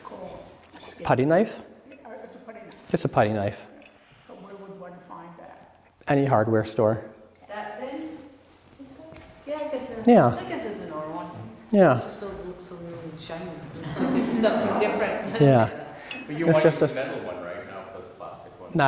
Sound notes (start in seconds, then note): 13.8 laughter